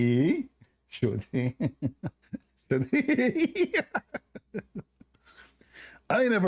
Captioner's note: Ketawa